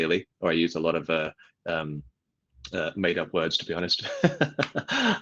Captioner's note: laughs